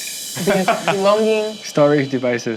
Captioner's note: laughs